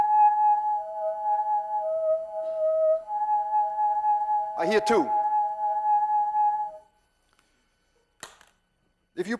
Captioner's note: tube hums two tones